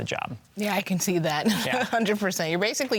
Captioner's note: laughs